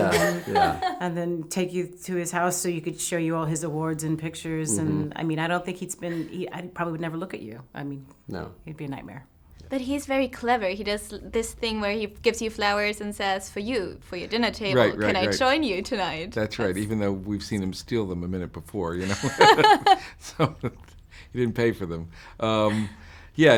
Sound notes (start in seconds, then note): 19.0 laughing